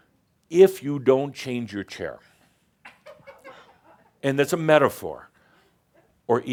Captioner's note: someone giggles